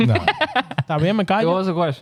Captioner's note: laughing; speaking In Foreign Language